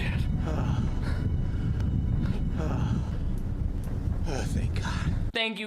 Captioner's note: breathing heavily in and out